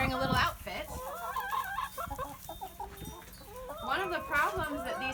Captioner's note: chickens clucking and chirping